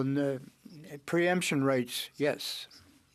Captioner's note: speaking French